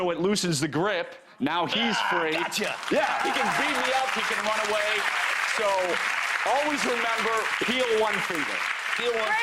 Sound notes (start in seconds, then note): 2.3 audience applause